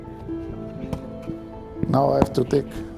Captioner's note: tree trunk thudding